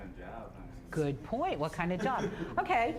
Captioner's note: audience laughing